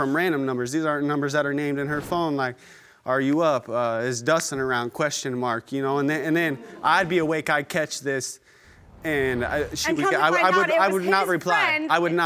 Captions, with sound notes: These aren't numbers that are named in her phone, like, "Are you up?" "Is Dustin around?" And then, I'd be awake, I catch this. (AUDIENCE MURMURING) And she... And I come to find out... I would not reply, I would not reply.